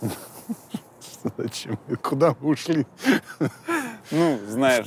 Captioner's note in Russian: смеясь